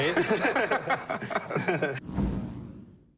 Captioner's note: laughter